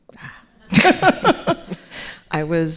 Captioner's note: audience laughing